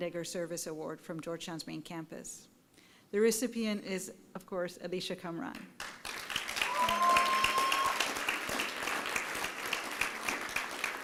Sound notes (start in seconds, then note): 5.8 applause and cheering